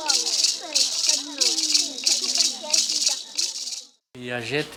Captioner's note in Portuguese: Vozes dispersas de crianças; Música continua até silenciar